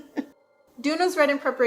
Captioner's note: laughs into cries